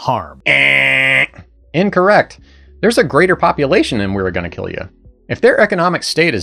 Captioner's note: buzzer